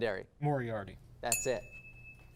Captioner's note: ding